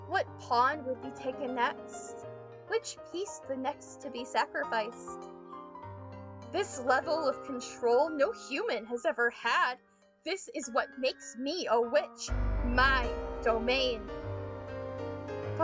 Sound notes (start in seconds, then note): none